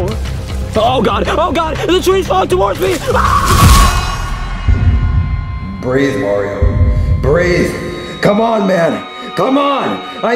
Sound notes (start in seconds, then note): 3.0 Mario screaming; 4.1 tone ringing